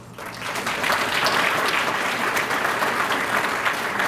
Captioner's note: applause